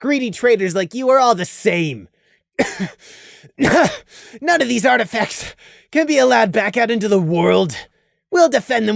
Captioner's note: cough